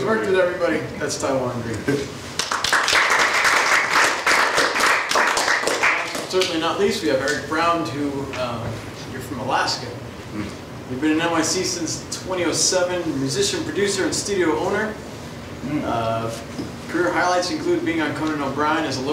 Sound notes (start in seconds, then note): 2.4 audience applauds